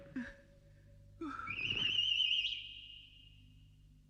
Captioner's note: whistles